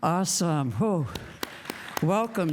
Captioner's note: applause